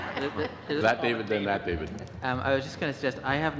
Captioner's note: laughter